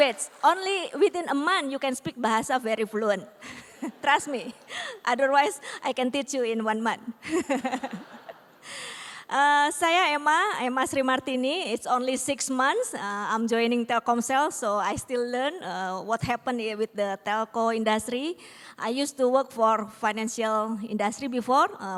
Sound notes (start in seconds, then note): 7.2 laughter; 9.2 non-english